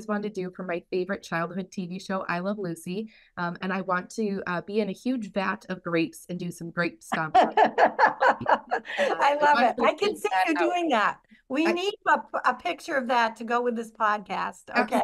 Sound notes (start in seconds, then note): 7.1 laughter